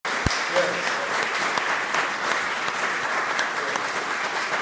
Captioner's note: audience applauding